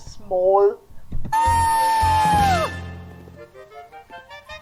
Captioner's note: howling